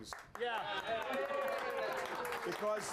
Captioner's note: audience cheering